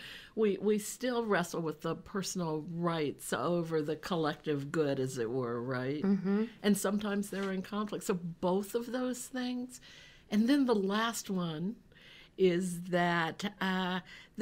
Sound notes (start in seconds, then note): none